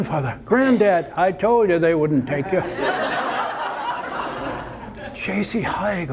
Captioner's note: audience laughter